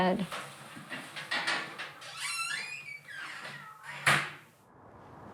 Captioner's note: door creaking